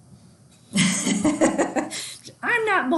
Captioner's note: laughs